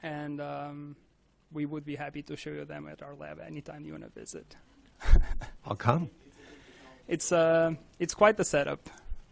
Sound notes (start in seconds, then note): 5.0 chuckles